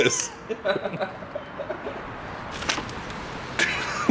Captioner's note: laughs